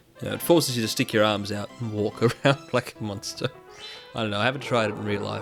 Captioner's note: chuckling